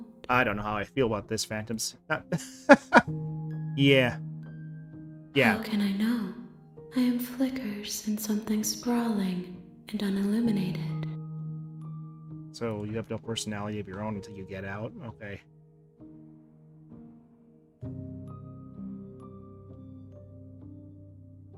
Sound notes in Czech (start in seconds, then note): 2.2 smích